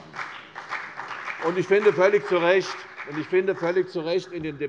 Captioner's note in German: Beifall CDU und BÜNDNIS 90/DIE GRÜNEN